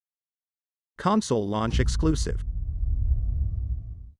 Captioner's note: dramatic sound